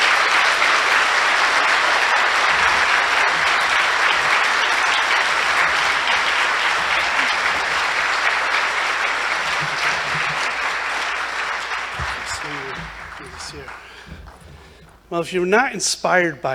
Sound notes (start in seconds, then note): 0.0 applause